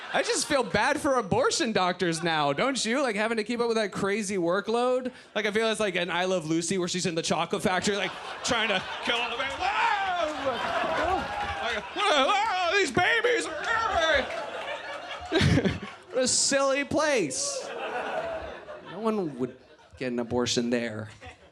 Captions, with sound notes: I just feel bad for abortion doctors now, don't you? Like, having to keep up with that crazy workload. Like, I feel it's like an "I Love Lucy" where she's in the chocolate factory, like, trying to, whoa! (audience laughs) These babies! (laughs) What a silly place. No one would get an abortion there.